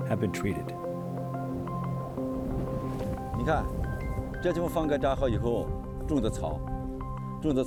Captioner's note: speaking chinese